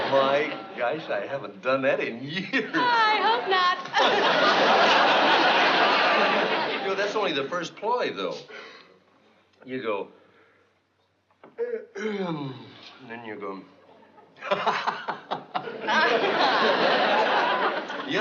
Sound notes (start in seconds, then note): 11.5 yawns; 13.9 laughs